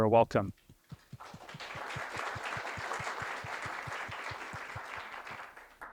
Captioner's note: applause